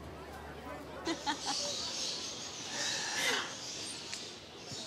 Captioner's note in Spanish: Risas